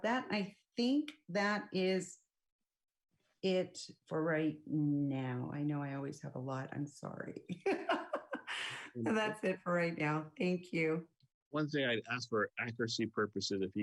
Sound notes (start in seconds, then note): 7.7 laughs